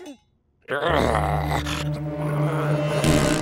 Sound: grunting; farting

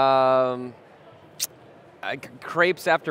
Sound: tongue clicking

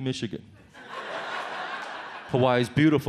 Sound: audience laughs

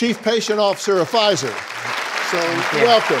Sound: audience applauds

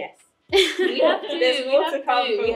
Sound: laughter

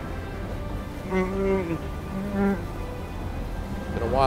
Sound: roars softly

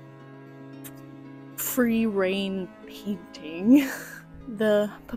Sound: laughter

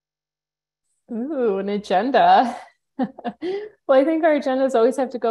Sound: chuckling

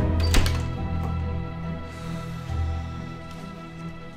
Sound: door closes; exhales

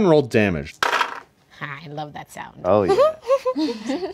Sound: dice clatters

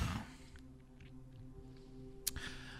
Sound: takes a breath

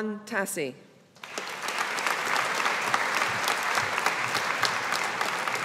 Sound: audience applauding

